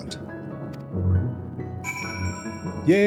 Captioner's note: bell rings